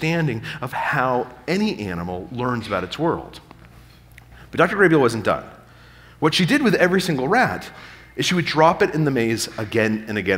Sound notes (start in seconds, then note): none